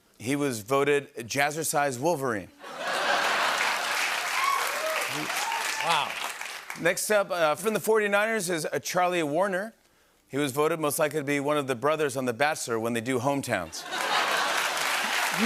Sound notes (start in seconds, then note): 2.8 laughter, cheering, and applause; 13.8 laughter, cheering, and applause